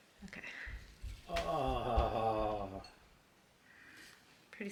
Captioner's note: pained groan; soft chuckle